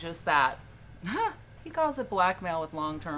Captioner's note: chuckles